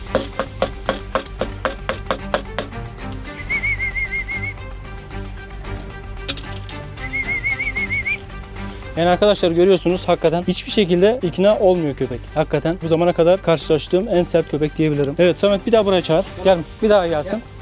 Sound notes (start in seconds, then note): 0.0 he makes noise by hitting the tray on the floor; 3.2 whistle